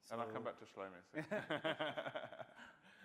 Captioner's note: laughter